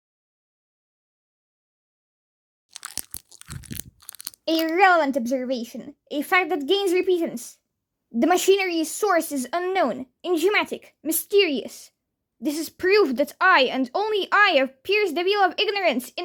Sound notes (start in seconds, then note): 2.7 crunching noises